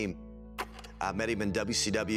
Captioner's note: film reel clicks